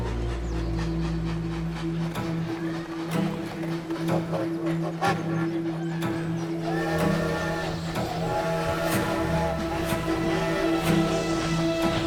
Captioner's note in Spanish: Ruido del tren